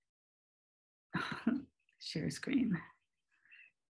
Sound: chuckles

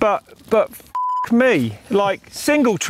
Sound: beep

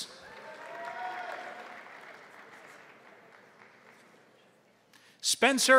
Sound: crowd cheering; crowd applauding

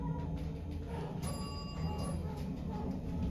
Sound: bell dings to 2 / two

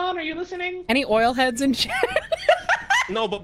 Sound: laughs

